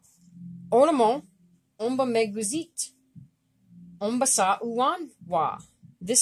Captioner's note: speaking Abenaki